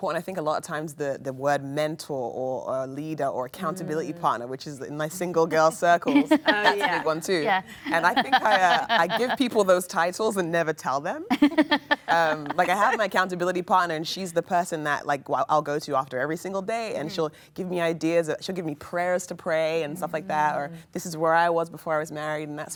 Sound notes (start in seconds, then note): 11.3 laughing